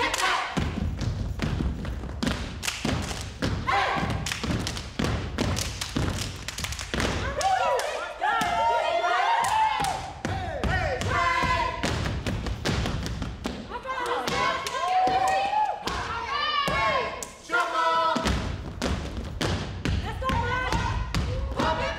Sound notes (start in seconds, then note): 7.0 group cheers; 12.0 group thumps